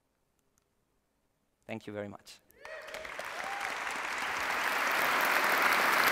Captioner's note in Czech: potlesk